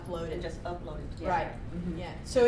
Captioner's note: voiceover